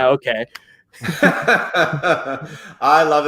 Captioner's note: laughing